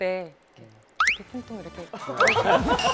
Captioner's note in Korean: 콩콩 콩콩; 박장대소